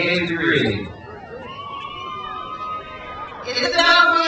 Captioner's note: crowd cheers